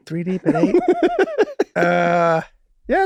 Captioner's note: Rob laughing amusingly